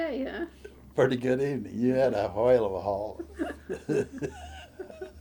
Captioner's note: laughs